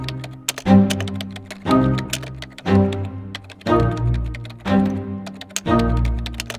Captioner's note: keyboard clicking; tense music